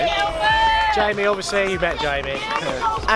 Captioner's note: shouting